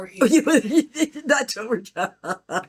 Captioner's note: laughs